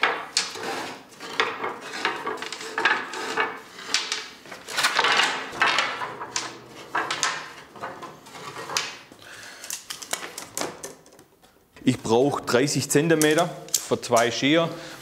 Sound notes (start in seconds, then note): 4.5 rattle